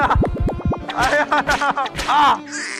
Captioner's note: slap